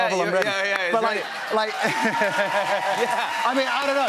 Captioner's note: cheers and applause